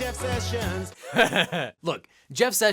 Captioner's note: laughs